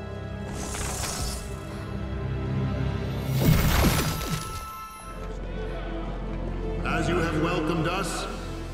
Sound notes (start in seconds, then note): 0.6 magic sound; 4.4 intense music